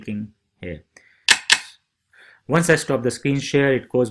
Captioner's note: computer click